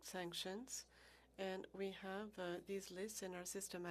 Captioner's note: speaking French